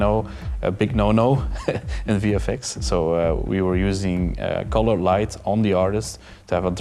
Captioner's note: laughs